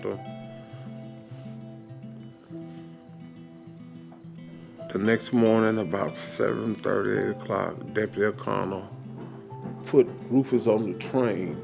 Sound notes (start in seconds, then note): 5.2 contemplative music; 5.2 insects buzzing